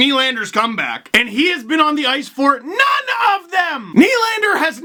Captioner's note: shouting